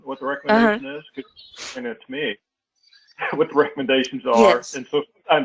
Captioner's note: laugh